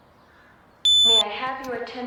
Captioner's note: beeping noises